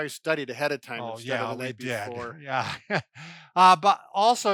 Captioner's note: laughs